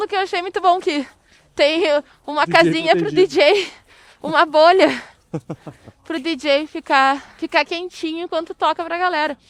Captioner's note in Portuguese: risadas